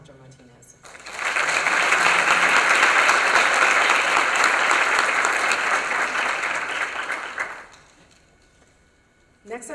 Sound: applause

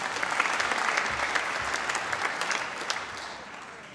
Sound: applause

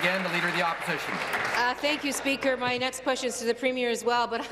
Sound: applause

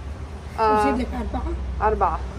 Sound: Arabic

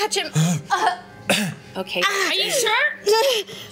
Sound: choking sounds

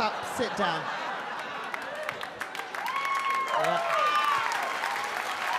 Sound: audience cheer and applaud

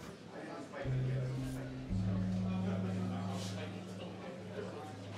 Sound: crowd murmuring

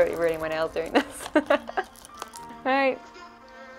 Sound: laughing

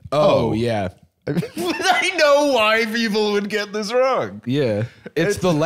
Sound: laughing

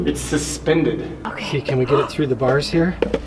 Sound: gasps

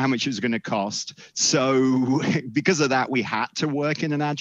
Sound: chuckles

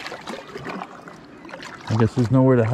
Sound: water lapping

